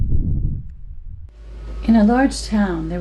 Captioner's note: wind